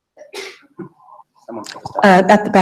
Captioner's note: woman sneezing